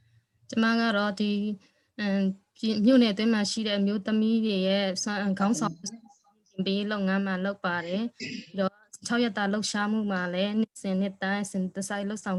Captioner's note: speaking in another language/ Interpretation